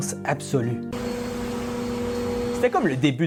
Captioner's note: ventilation noises